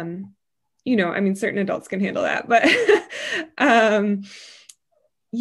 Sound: laughs

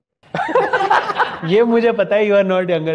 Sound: laughing

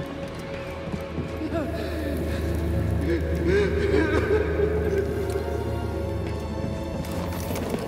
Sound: pained gasps, crying

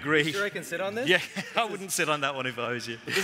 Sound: laughing

